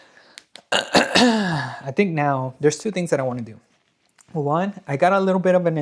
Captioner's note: clears throat